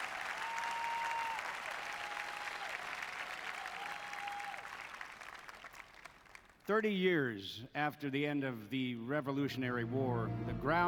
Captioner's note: applause